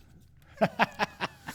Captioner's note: laughing